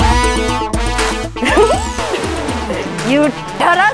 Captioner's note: Mona chuckles